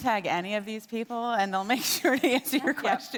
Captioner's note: laughs